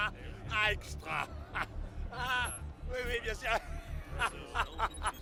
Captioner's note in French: homme parlant une langue étrangère